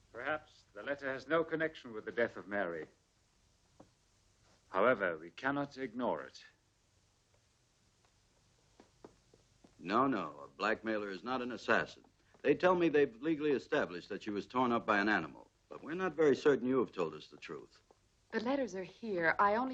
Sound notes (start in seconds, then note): none